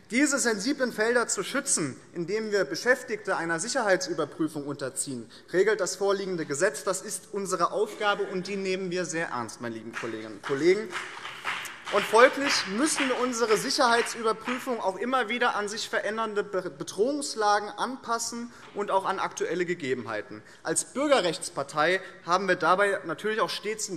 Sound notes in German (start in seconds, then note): 9.8 Beifall BÜNDNIS 90/DIE GRÜNEN und vereinzelt CDU